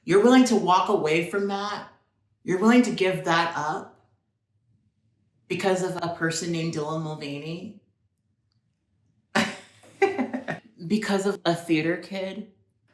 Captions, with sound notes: You're willing to walk away from that? You're willing to give that up because of a person named Dylan Mulvaney? (laughs) Because of a theater kid.